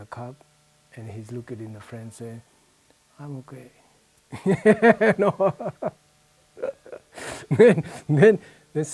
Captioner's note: laughs heartily